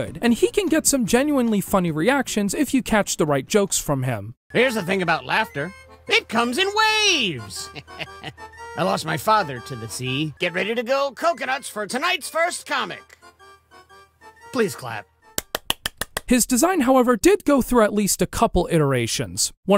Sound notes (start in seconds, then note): 7.5 laughs; 15.4 clapping sounds